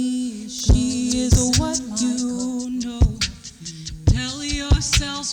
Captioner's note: rhythmic beat boxing